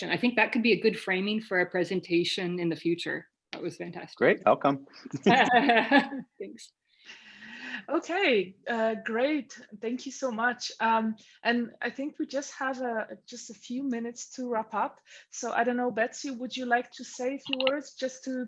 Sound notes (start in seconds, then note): 5.1 laughing